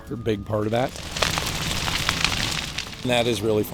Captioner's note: fire rolling up hill